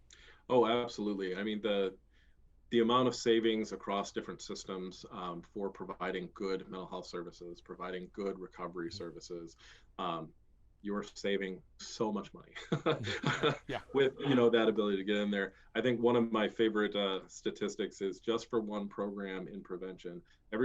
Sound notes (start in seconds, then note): 12.5 laughing